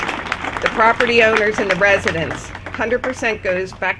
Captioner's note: applause